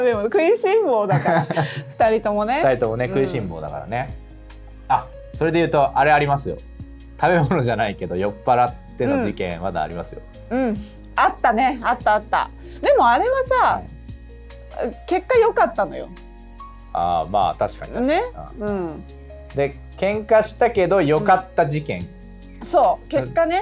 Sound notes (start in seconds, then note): 9.8 laughs; 11.6 laughs